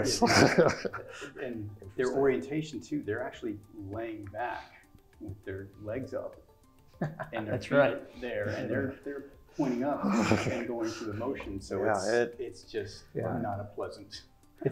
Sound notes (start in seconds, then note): 0.0 laugh; 6.8 laugh